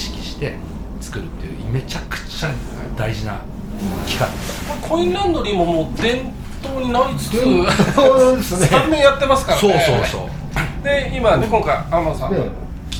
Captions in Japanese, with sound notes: これコインランドリーももう伝統になりつつですね。 [笑い] 3年やってますからね。 そう、そう、そう。 で、今ね、今回天さん